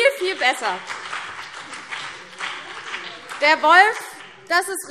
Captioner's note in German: Beifall CDU und BÜNDNIS 90/DIE GRÜNEN